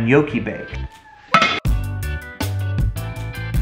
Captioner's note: pot clatters; casual music